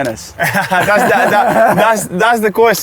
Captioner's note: laughing; laughs